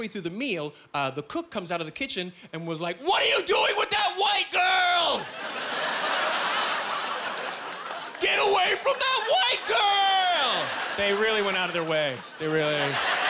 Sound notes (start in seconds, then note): 5.2 laughing